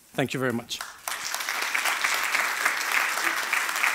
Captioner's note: applause